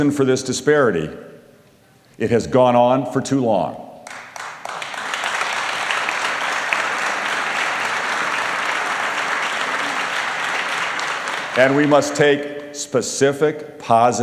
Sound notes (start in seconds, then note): 7.6 applause